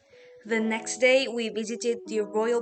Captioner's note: in English